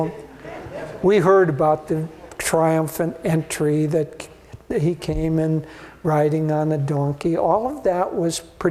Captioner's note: laughter